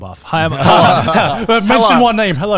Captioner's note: everyone laughs